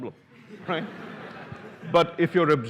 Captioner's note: laughter